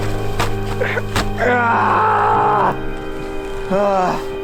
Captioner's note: moaning in pain